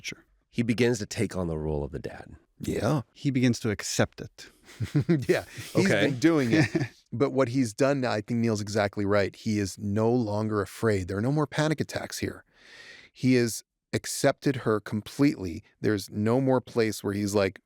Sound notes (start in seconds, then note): 4.6 chuckles